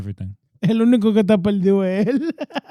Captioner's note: speaking In Foreign Language